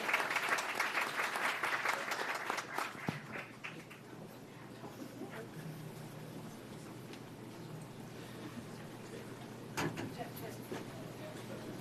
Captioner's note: applause